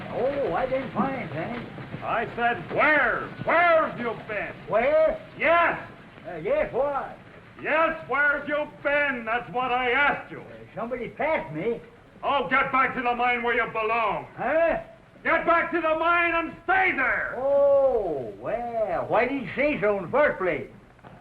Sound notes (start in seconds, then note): none